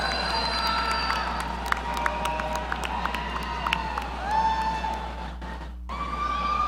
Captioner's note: audience applauding; audience cheering